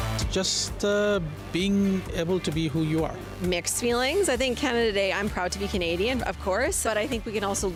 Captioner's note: none